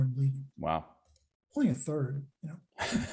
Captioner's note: laughs